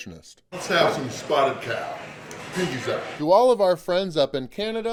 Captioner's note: voiceover